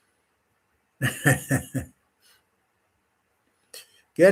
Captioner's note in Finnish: naurua